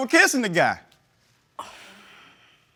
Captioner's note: sighs